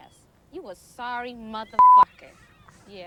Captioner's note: beep